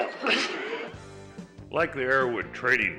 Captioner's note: laughing